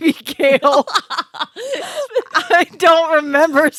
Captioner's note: laughing